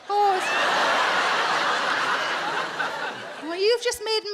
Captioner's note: audience laughs